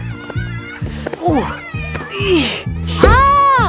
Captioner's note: grunting